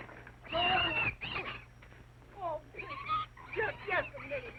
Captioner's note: pig screeching